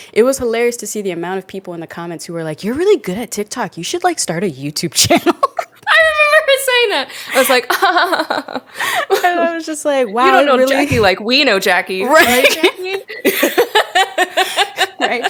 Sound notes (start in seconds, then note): 7.1 laughs; 7.3 both laugh; 12.1 both laugh